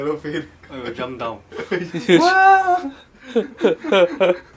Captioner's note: laughter